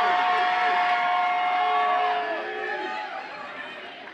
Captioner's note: audience applauds and cheers